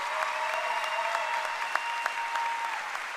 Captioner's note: cheering and applause